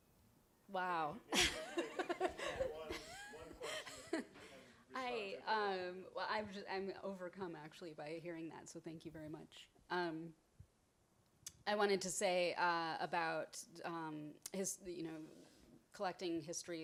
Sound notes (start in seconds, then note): 1.3 laughs; 2.7 speaks softly